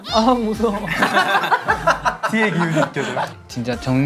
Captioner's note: laughing